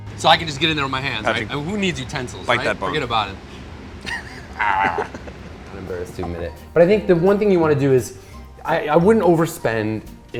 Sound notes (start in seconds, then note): 4.1 exaggerated gnawing sound